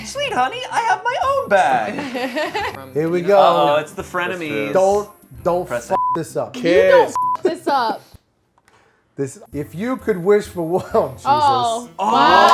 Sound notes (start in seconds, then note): 1.7 laughs; 7.1 beep